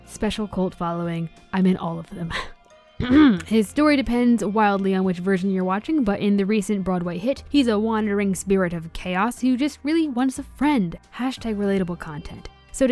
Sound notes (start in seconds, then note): 3.0 clears throat